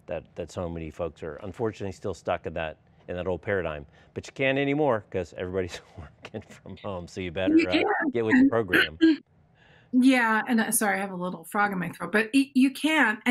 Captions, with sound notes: that so many folks are unfortunately still stuck in that old paradigm. But you can't anymore 'cause everybody's (chuckles) working from home, so you better get with the program. >> (clears throat) Yeah, I'm sorry, I have a little frog in my throat. But you can.